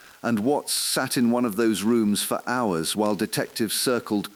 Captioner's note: exhale